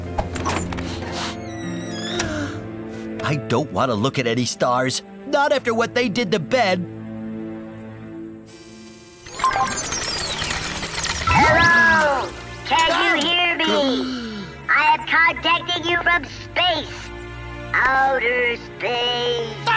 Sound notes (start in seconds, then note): 0.9 sniffles; 9.2 beeping, whirring; 13.9 gasps